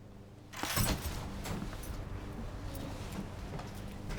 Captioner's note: keys jangling